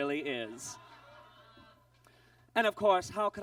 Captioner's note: audience groans